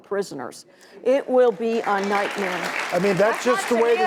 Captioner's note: audience applauds